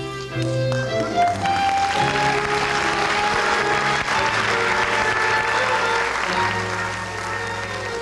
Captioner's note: applause